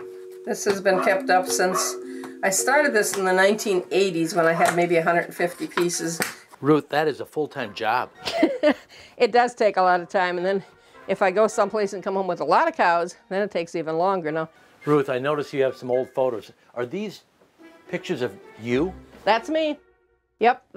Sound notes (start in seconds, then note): 8.2 laughing